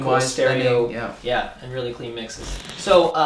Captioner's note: static